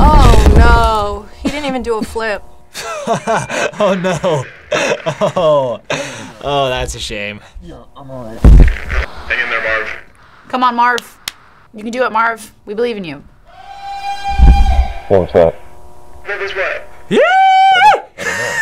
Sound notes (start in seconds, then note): 2.7 laughs; 13.8 man yells; 17.1 yells; 18.1 laughs